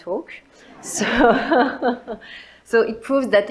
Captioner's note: audience laughs; laughs